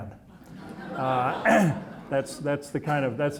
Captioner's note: audience laughing